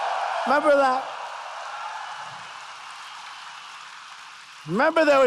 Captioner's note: applause